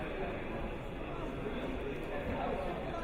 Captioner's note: none